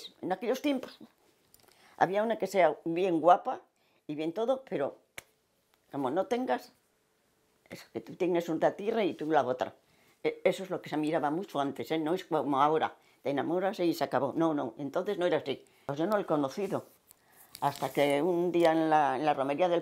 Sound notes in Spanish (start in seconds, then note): 5.2 Palmada